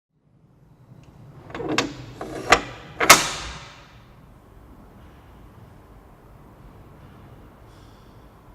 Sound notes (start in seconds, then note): 1.3 clanking